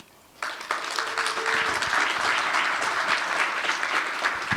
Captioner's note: applause